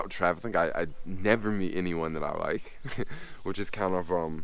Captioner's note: laughs